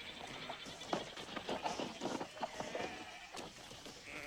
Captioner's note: bleating